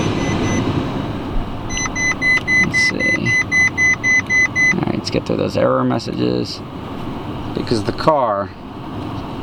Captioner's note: still beeping; beeping stops